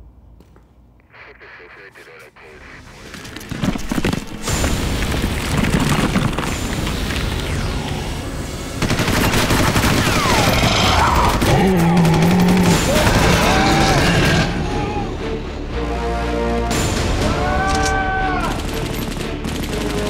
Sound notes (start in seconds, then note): 0.2 radio chatter; 2.6 ground rumbling; 8.7 guns blasting; 9.6 man screaming; 10.2 mummy growling; 13.3 man shouting; 14.6 thrilling music; 17.2 man screaming; 18.4 guns blasting